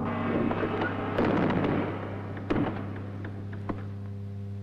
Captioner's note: door thudding